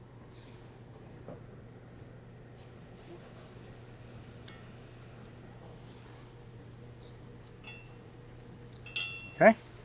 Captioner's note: metal clanking